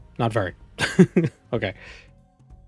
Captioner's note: laughing